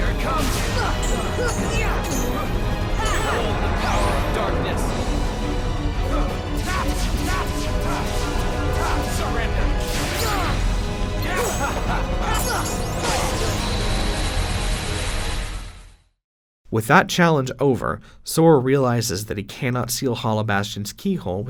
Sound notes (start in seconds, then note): 0.0 battle noises; 10.6 battle noises